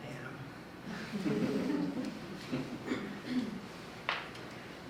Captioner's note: audience giggling